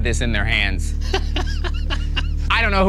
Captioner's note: laughing